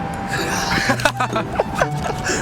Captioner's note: laughter